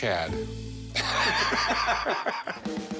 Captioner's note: laughter